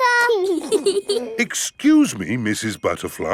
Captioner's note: both giggling